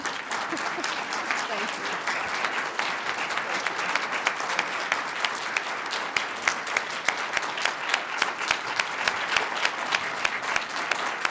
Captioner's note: audience applause